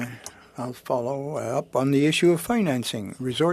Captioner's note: speaking French